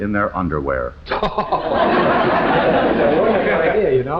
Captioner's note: all laughing